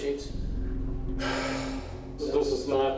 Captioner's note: suspect sighs